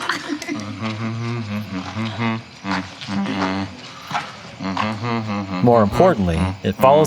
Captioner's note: humming